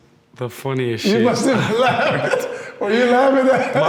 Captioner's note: laughs